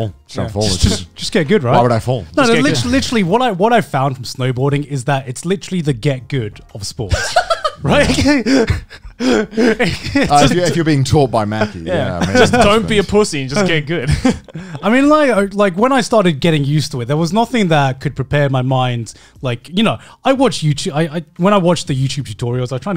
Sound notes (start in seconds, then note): 8.0 laughing